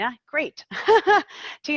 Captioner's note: laughing